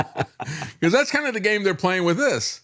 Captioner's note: both Laughing